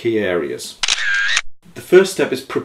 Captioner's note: photo shutter snapping